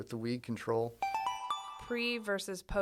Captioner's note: chime